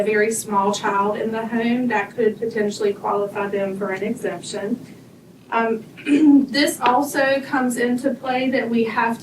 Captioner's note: clears throat